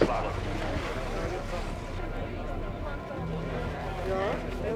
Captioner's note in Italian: chiacchierio di persone